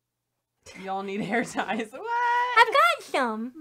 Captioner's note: both chuckle